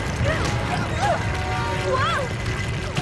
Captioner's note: rumbling